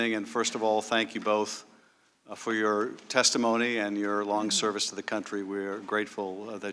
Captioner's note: laughs